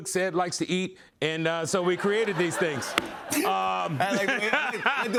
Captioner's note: laughter